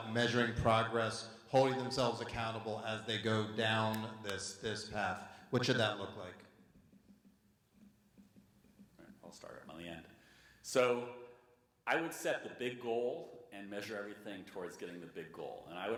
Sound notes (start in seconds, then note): none